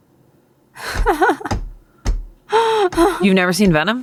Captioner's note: chuckles